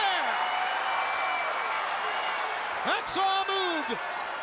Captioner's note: crowd cheers